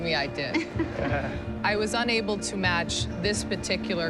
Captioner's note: chuckles